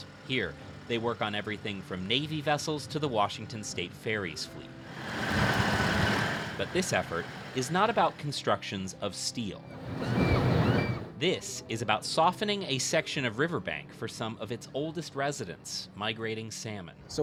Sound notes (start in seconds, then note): 4.8 Ferry engine rumbling; 9.7 seagulls calling